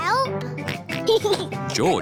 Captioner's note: oinks and giggles; oinks